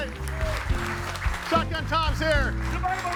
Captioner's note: audience applauding